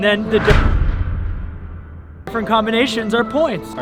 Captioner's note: door slamming shut